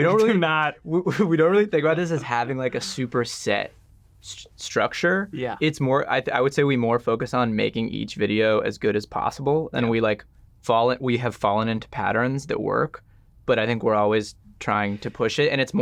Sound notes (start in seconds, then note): none